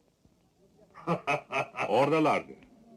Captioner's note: laughing